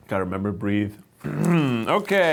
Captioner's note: clears throat